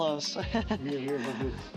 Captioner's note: laughs